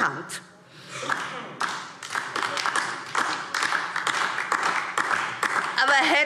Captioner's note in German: Beifall DIE LINKE